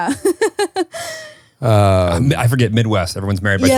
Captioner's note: laughing